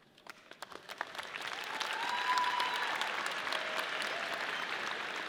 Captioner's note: audience applauding